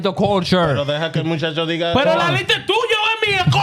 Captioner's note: speaking Foreign Language